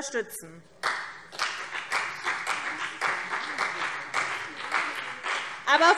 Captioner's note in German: Beifall CDU und BÜNDNIS 90/DIE GRÜNEN